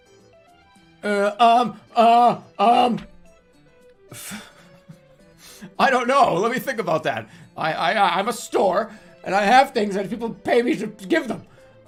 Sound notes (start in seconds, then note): 4.0 holding laugh